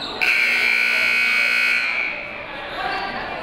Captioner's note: buzzer